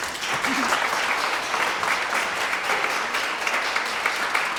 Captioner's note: audience applauds